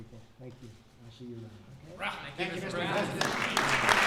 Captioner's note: applause